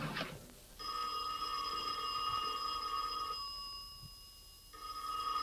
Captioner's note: telephone ringing